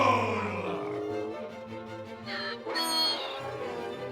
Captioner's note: the aliens in unison; loud donkey's bray